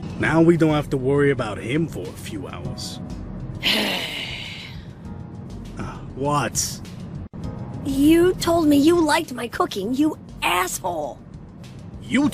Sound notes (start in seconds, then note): 3.6 le sigh